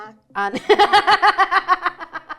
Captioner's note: laughs